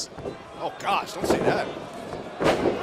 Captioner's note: crowd cheering